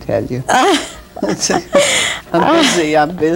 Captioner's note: laughs